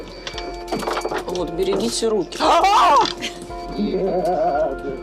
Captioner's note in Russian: кричит